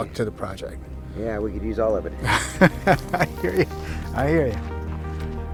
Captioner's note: laughs